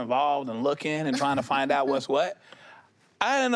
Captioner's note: chuckles